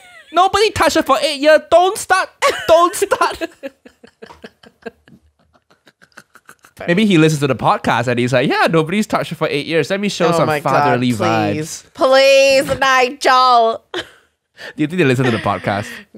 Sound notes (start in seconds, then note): 2.4 both Laughing